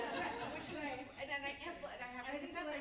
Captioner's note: group laughs